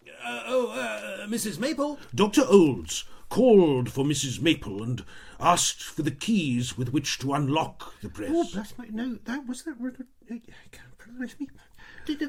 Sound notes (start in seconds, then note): 8.8 Mrs. Maple mutters